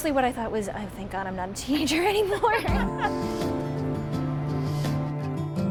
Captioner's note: laughs; gentle music